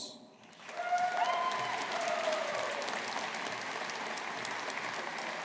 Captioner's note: audience applauding